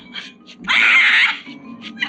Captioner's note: screaming